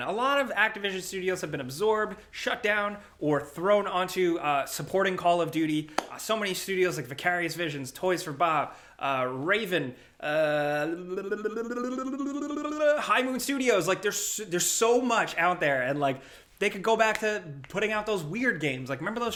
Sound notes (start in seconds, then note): 10.6 trills tongue